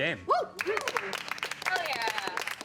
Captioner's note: all applauding